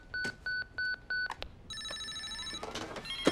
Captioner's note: all phones ringing